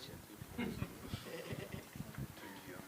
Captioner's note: giggles